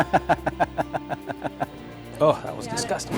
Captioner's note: laughter